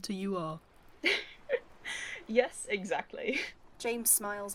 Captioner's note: Alice laughs